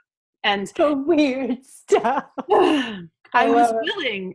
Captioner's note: laughter